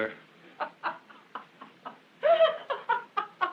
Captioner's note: Aunt Genevieve laughing